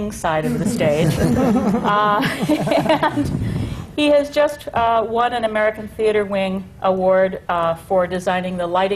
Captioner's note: laughter